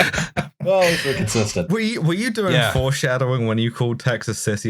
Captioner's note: laughter